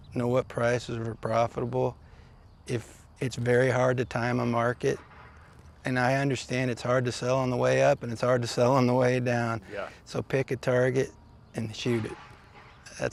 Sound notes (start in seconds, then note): 8.8 chuckles